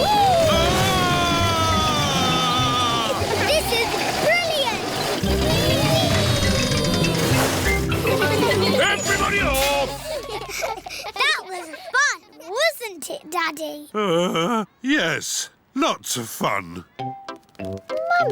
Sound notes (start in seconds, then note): 14.3 groans